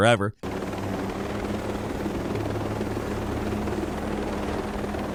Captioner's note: helicopter whirring